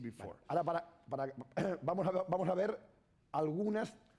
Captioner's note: speaking spanish